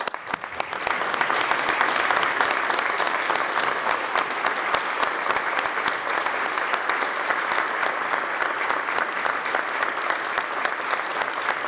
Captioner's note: applause